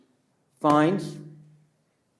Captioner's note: pats table